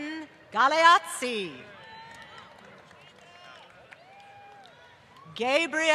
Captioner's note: applause